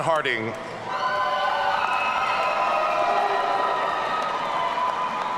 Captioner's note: audience cheering